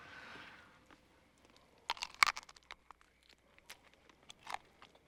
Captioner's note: crunching